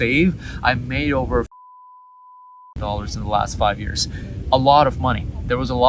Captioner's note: beep